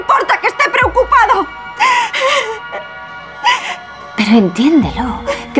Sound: crying

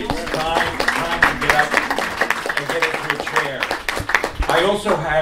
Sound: applause

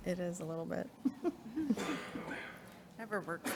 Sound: board members chuckling

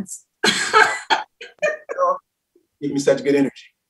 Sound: laughs loudly

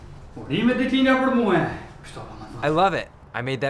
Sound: speaks in foreign language

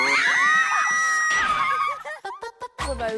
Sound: suddenly screaming

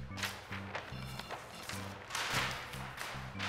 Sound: paper crumples

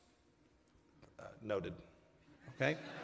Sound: laughter

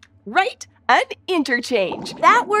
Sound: squeaks squeaking

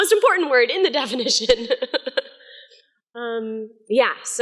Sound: laughing

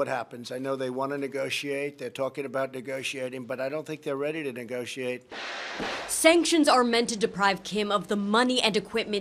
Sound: sound of missile launch

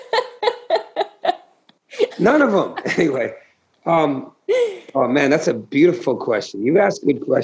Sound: laughter

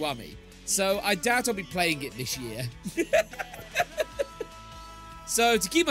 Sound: laugh

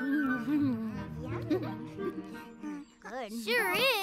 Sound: giggles

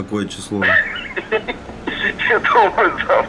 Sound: giggles

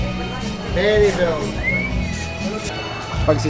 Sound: whistles

